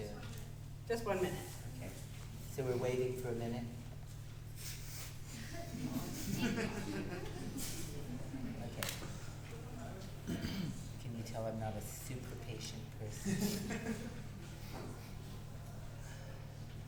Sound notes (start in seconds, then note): 5.3 people laughing; 13.3 person laughing